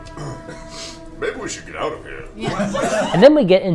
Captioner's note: all laugh